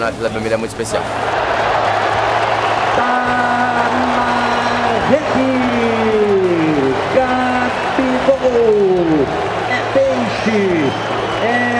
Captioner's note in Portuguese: torcida celebrando